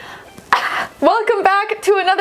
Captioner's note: coughing